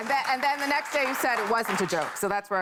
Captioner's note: applause